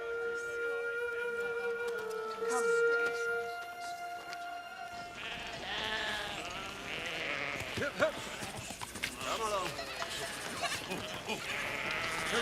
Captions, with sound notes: (goats bleating) HUP, HUP. COME ALONG. MOVE, MOVE. COME ON.